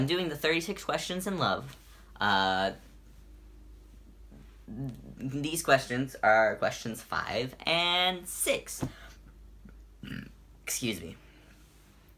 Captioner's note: burp